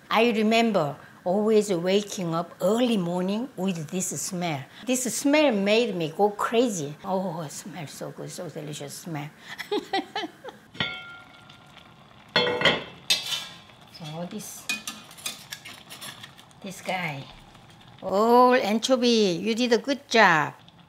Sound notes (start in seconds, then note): 9.5 laughs; 10.8 lip pings; 10.8 soup bubbles; 12.3 lid clacks